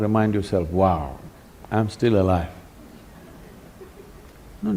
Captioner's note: laughter